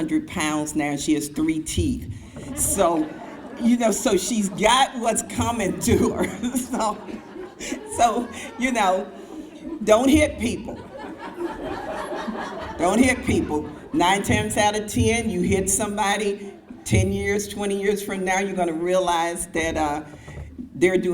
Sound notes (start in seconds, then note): 10.9 crowd laughs